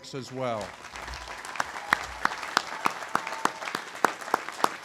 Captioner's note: audience applauding